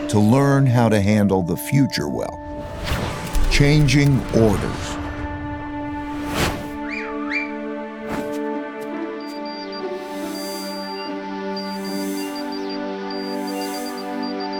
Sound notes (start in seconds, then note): 6.9 man whistles; 9.1 machine beeping